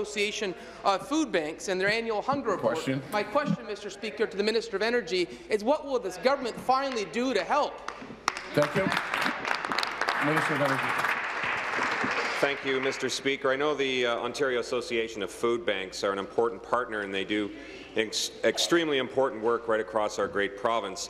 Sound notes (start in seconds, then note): 13.5 applause